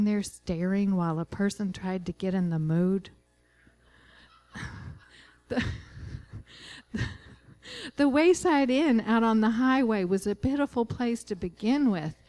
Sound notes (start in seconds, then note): 5.4 laughter